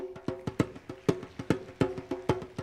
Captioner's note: applause